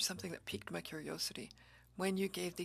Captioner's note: speaking French